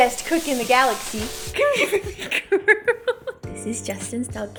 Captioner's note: laughing